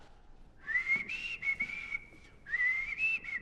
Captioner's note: whistling